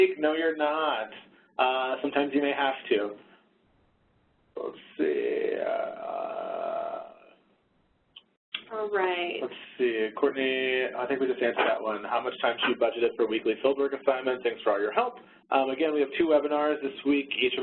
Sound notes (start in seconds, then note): none